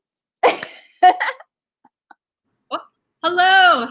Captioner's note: laughing